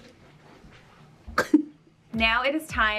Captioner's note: chuckles